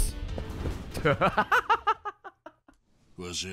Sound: laughs

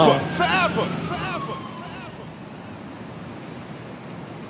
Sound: city street noise

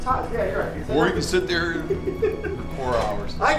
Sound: laughing

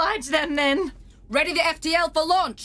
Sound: raised voice

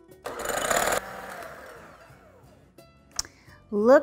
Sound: whirring

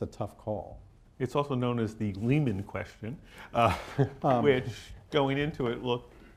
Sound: laughs

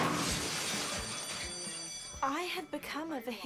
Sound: tires screeching and crashing; bell ringi ng

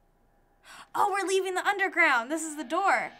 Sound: gasping

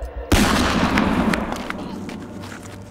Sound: gun shot

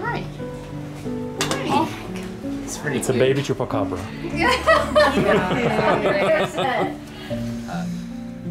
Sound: laughter

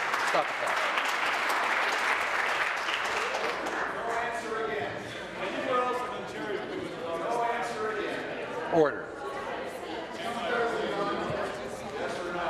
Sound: some Applause

